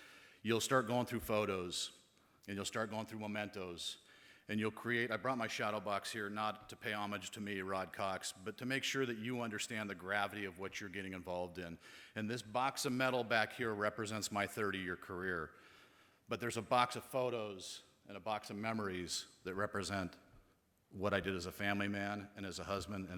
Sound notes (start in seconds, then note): none